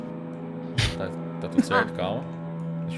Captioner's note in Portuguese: Risada